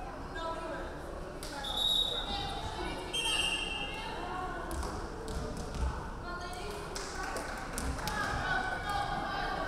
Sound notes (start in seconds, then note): 1.7 referee whistling